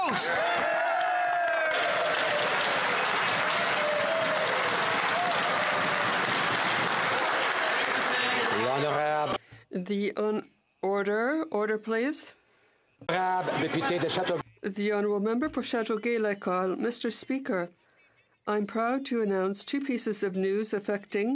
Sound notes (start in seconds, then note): 3.7 some Applause